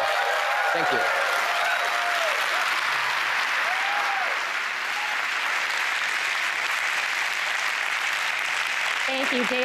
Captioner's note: applause